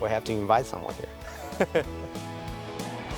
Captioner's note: laughs; upbeat music